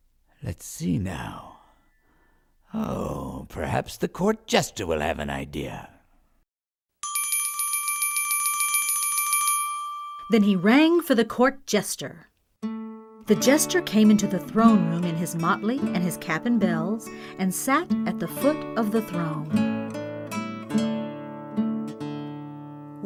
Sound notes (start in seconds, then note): 7.0 bell ringing; 12.3 light lute music playing; 19.6 lute music continues